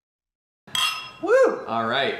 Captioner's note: clinking glasses